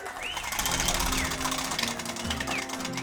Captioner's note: applause